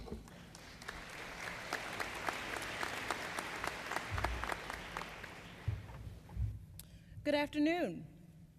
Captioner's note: applause